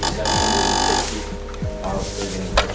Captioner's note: buzzer goes off; workers chattering